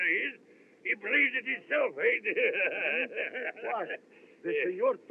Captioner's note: laughs